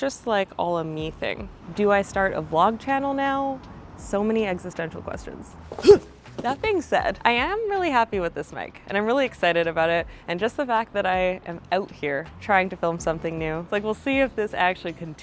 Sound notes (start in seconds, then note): 5.7 grunts